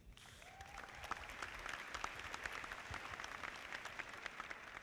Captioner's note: audience clapping